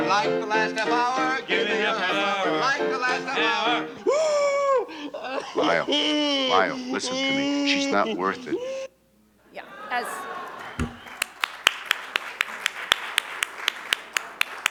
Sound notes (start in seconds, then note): 3.3 wails; 9.5 audience exclaims; 11.5 audience applauds